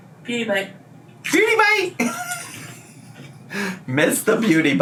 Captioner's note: laughs